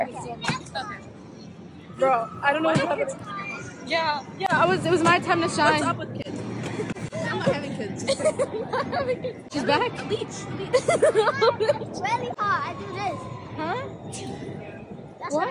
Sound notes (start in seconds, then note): 8.0 giggling; 9.6 child chattering